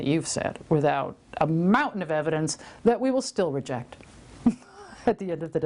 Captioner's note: laughs